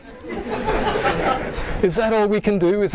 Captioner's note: audience laughing